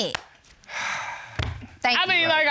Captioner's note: sighs